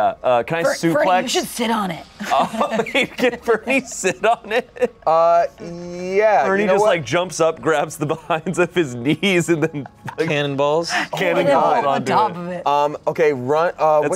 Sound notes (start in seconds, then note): 2.4 everyone laughs; 9.4 laughs